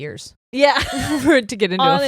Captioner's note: laughs